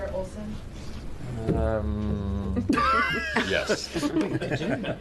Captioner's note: laughing